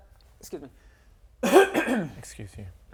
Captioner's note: coughs into mic anyway